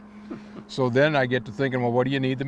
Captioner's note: chuckling